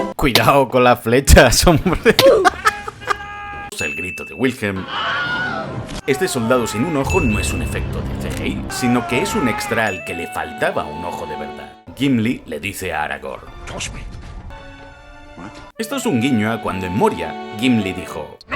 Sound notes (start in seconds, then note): 4.8 scream